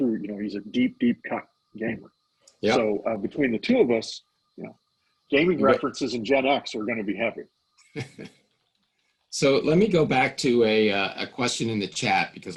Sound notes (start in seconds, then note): 8.0 laughing